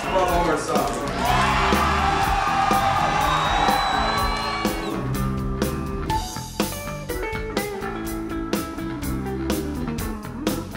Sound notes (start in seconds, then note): 0.0 blissful rock music; 1.0 crowd cheering